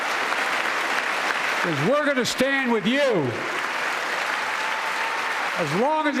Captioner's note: applause